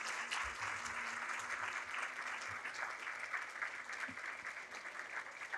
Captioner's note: audience applauding